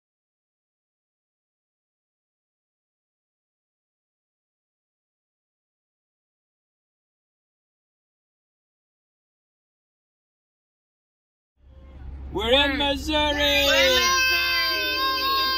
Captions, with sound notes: WE ARE IN MISSOURI! (*yelling*)